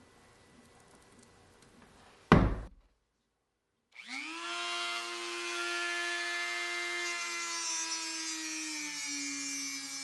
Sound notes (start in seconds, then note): 3.9 Dremel buzzing